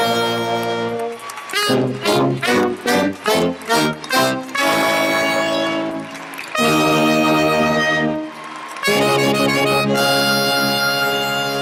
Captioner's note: applause and musical fanfare